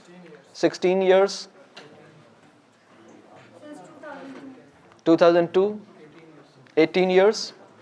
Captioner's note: voices from the audience